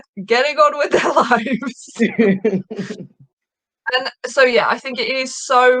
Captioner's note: laughing